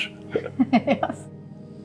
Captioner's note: both giggle